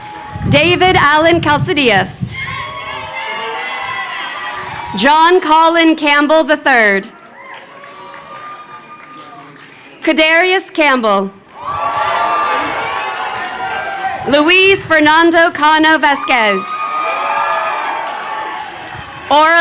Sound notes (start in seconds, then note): 2.0 crowd chattering; 11.4 crowd cheering